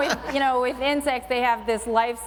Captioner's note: laughter